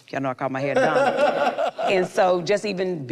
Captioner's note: group laughs